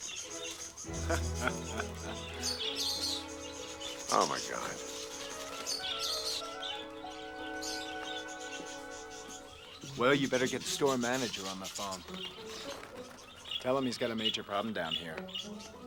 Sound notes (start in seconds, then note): 0.9 Jack laughing; 6.7 birds chirping